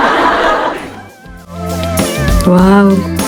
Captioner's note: laughter